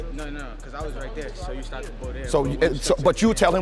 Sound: overlapping chattering

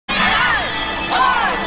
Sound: crowd

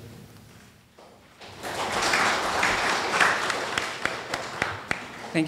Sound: audience applause

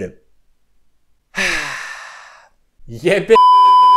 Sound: sigh

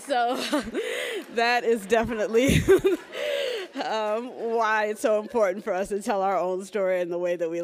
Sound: laughs

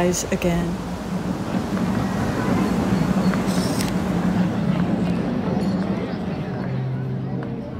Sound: sounds of a crowded plaza

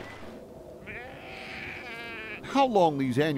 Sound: sheep bleating

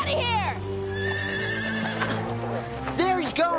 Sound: horse neighing

